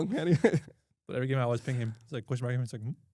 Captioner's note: laughs